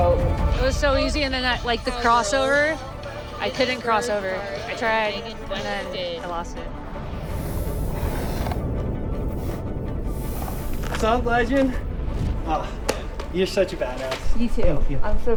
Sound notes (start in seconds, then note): 6.9 energetic music; 7.2 horse exhaling